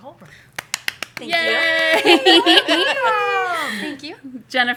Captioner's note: applause; laughter